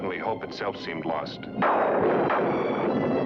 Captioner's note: thunderclap